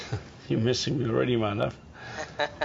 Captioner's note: chuckles